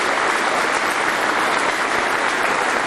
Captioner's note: applause